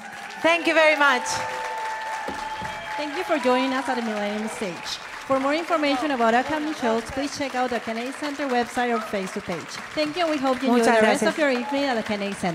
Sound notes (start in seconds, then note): 1.5 audience applauding; 1.5 audience cheering